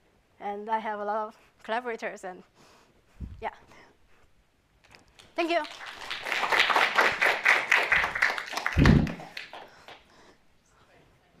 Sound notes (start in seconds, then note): 5.2 applause